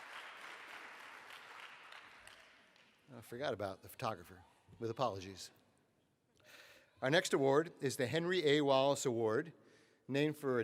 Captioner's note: applause